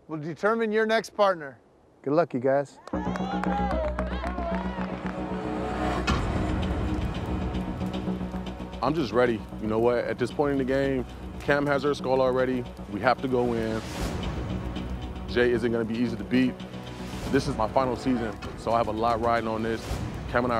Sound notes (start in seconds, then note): 2.8 cheering; 4.3 dramatic music